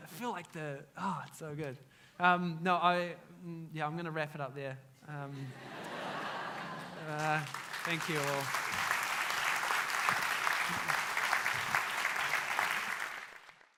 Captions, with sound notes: I feel like, oh, it's so good. Yeah, I'm gonna wrap it up there. (audience laughs) Thank you all.